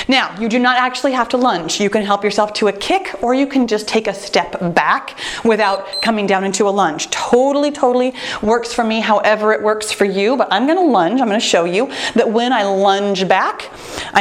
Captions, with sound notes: Now, you do not actually have to lunge. You can help yourself to a kick, or you can just take a step back without coming down (timer beeps) into a lunge. Totally, totally works for me however it works for you, but I'm gonna lunge. I'm gonna show you that when I lunge back,